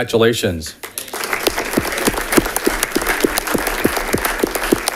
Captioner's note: audience clapping